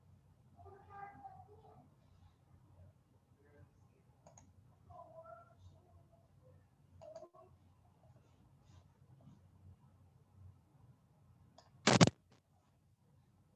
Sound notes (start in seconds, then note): none